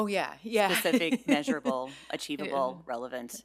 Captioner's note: laughs